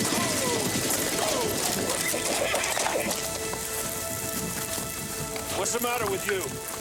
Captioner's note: horses neighing